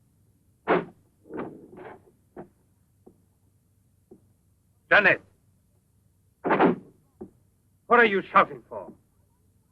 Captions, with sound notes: (clattering) - Jeanette! (door slams) What are you shouting for?